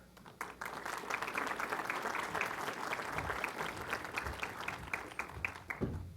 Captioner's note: applause